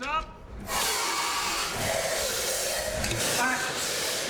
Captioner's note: hissing